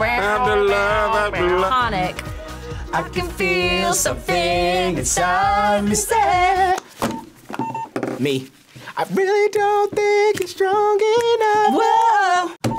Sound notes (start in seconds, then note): 7.0 buzzer rings